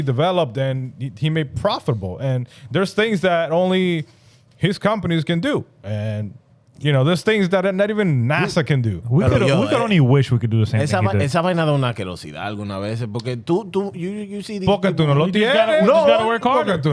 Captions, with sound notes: developed and he made profitable. And there's things that only his companies can do. And you know, there's things that not even NASA can do. We can only wish we could do the same thing. (Speaking In Foreign Language) You gotta work harder,